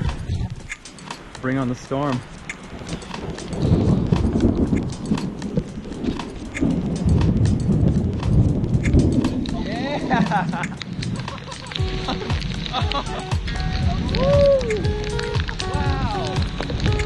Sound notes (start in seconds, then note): 3.2 thunder cracking; 9.7 laughs; 11.9 bright music; 11.9 raindrops tapping; 14.1 cheers; 15.0 bright music; 15.0 raindrops tapping